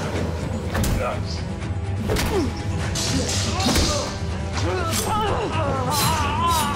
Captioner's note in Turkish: Dövüşme Sesleri; İnleme Sesleri